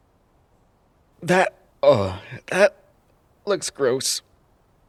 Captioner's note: gagging